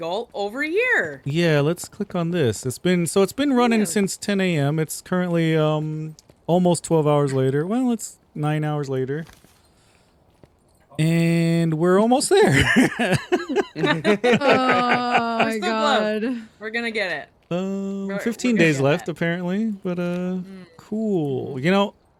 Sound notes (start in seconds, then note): 12.2 laughing